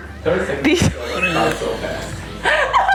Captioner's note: laughing